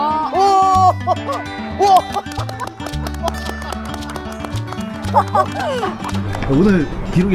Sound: clap

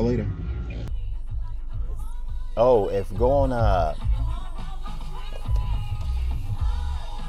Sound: radio playing

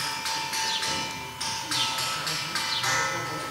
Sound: clinking noises

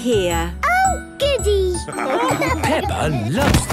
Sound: laughing

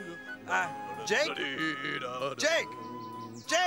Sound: Jake humming

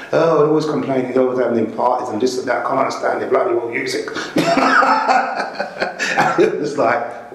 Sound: laughs

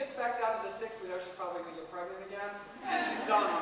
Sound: laughter

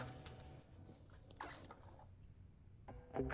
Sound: unzips

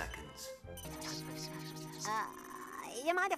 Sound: whispering

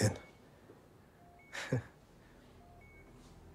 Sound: chuckles

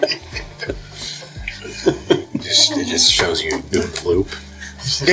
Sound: all laughing; laughing

